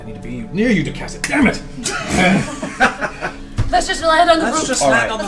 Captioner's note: all laugh